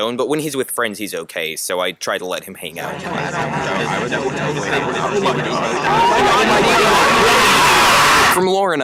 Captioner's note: spaghetti talks and screams